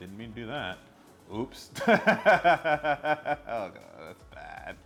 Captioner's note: laughs